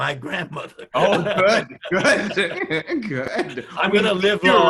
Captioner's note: both laugh loudly